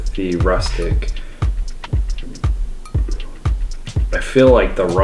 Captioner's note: not quite discreet belch